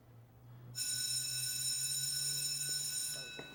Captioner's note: bell rings